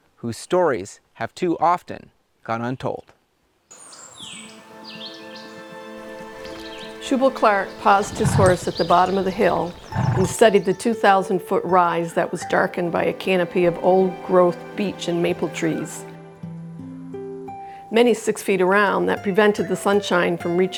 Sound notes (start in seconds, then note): 3.7 birds chirping; 4.1 gentle music